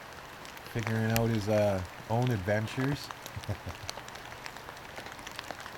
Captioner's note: laughter